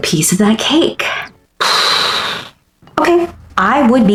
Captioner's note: frustrated exhale